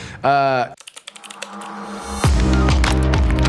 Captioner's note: keyboard clicking; upbeat music